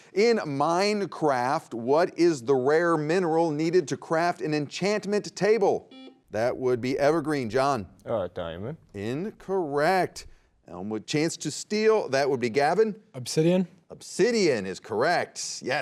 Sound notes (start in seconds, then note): 5.9 buzzer beeps